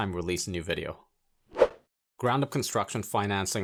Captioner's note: air whooshing